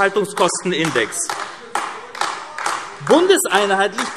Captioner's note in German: Beifall AfD